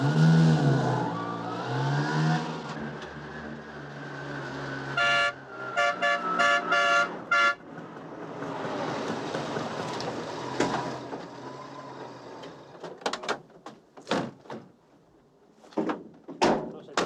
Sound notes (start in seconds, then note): 4.8 horn honking